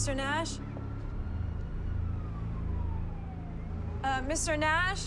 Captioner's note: police siren wailing